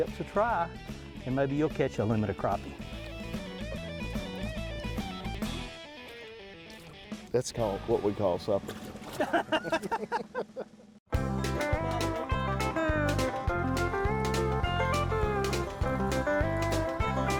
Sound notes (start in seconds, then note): 2.8 upbeat rock music; 8.7 laughing; 11.1 bright country music